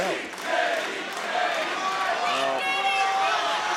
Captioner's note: crowd chants "JD"